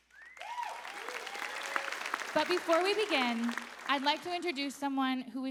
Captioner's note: applause